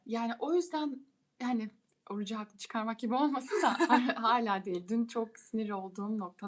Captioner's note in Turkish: kahkaha